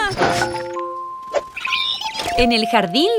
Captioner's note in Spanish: Sonido de pájaro